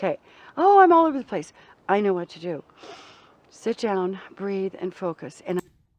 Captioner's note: takes a deep breath